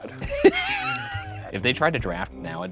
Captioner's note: laughing